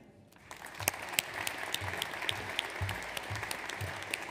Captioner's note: audience applauds